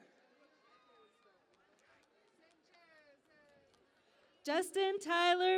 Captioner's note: cheering and Applause